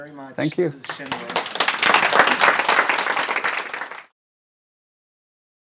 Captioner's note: audience applauds